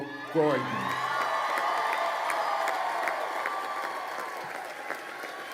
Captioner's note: crowd cheering and applauding